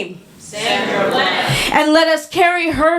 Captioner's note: audience responds